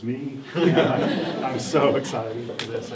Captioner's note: everyone laughs